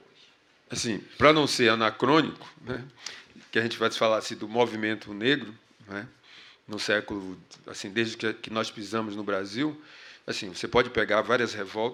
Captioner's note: speaking portuguese